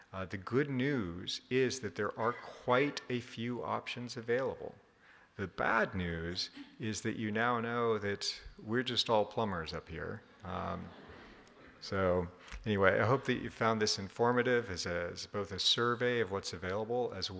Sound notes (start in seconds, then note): 10.4 audience laughing